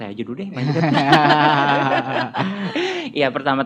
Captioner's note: laugh